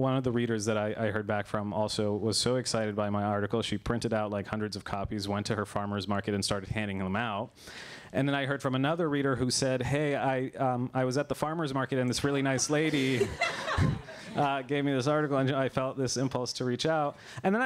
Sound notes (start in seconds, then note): 12.5 laughter